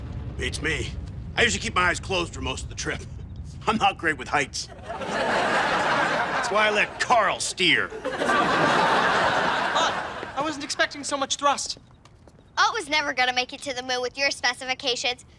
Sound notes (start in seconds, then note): 4.7 audience laughs